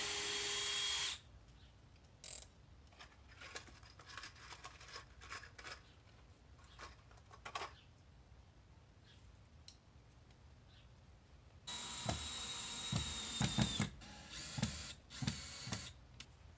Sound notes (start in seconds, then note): 0.0 drill; 0.1 drill clicking; 3.1 screws shaking; 11.6 drill